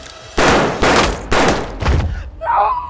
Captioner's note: gun fires